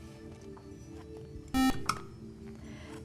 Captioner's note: buzzer